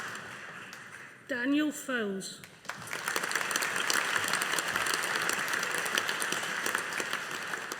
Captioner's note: audience applauding